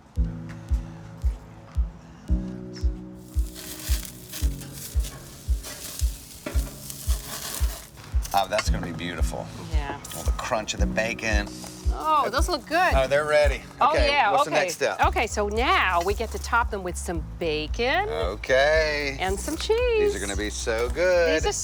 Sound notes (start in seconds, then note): 0.3 light music; 3.8 burgers sizzling